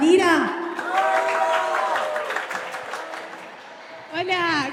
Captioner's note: cheering; clapping